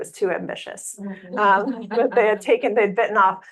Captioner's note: audience laughing